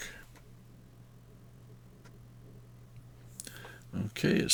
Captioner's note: silence